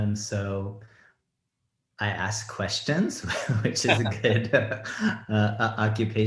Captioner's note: laughs